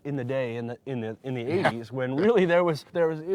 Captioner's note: chuckling